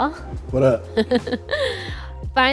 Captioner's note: laughing